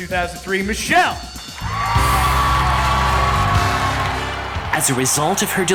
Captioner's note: crowd cheering & applauding